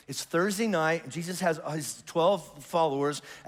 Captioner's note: none